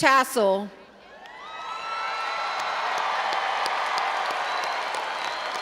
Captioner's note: all applauding and cheering